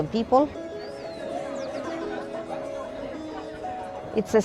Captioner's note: people chatter